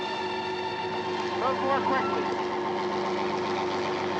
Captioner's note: helicopter whirring